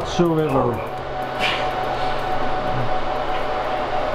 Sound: sharp loud sigh

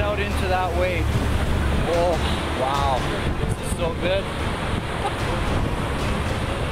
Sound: laughs

